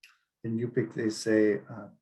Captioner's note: speaking Yupik